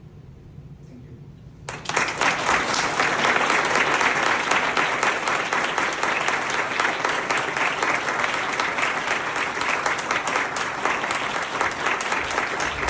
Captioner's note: applause